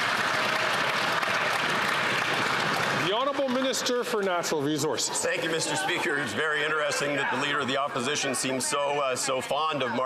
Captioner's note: some Applause